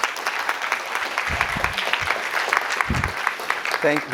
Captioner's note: applause